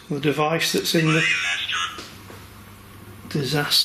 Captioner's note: voice On Radio